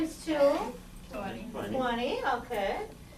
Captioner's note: voiceover